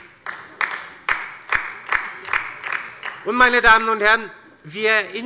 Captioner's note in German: Beifall bei der LINKEN